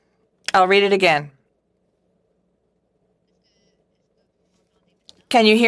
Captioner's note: speaking French